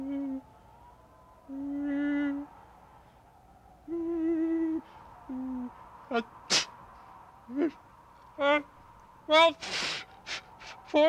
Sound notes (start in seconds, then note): 1.4 Kermit moans; 6.4 Kermit sneezes